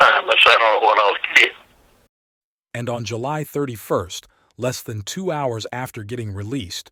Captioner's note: laughs